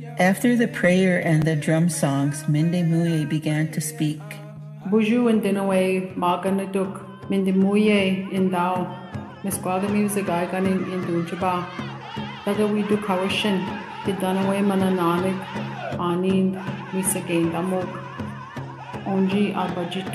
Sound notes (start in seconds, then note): 4.9 foreign Language